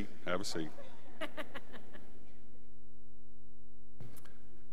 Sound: woman laughs

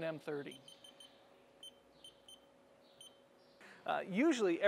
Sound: machine beeping

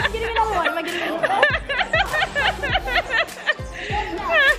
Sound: laughing

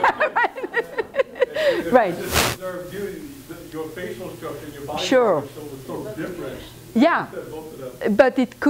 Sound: laughter

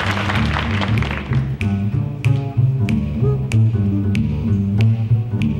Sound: finger snapping

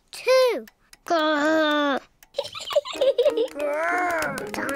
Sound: laughs

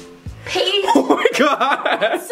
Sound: laughs

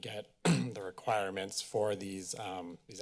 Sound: clears throat

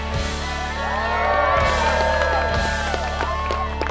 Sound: crowd cheers

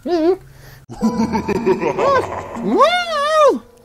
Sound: bin hand laughs menacingly

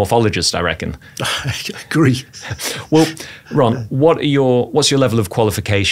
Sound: laughs

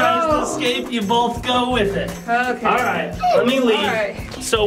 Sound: none

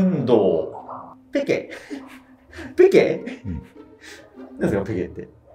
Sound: laughing

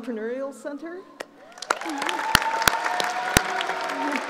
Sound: applauding

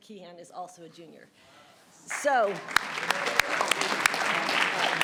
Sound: audience clapping

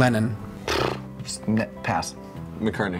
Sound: blows air

